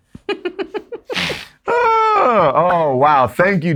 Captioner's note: giggling